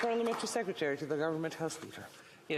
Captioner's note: applause